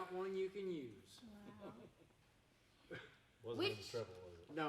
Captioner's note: laughing